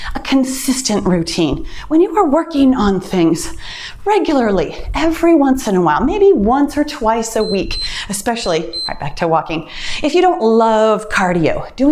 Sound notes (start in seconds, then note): 7.3 timer beeps